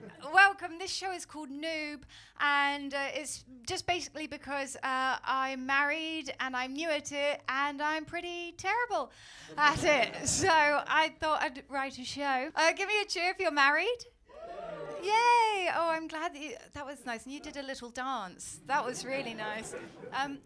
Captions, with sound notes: Welcome, this show is called Noob and it’s just basically because I’m married and I’m new at it and I’m pretty terrible at it, so I thought I’d write a show. Give me a cheer if you’re married. [CHEERS FROM AUDIENCE] Yay! Oh, I’m glad, that was nice, you did a little dance, that was really nice.